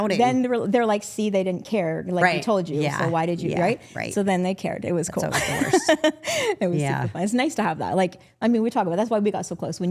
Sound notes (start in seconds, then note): 5.9 laughs